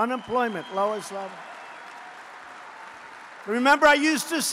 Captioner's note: applause